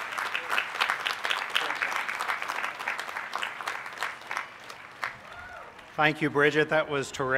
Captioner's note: applause